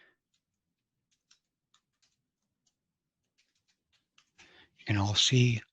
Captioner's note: keyboard clicking